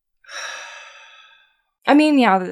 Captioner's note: heavy sigh